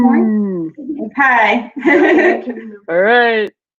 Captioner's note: laughing